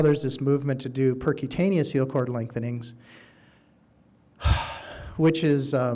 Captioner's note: sighing